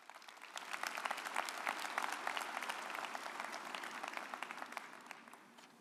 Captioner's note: audience applauding